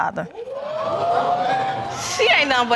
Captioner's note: audience exclaiming